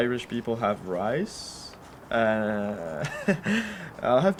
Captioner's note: laughs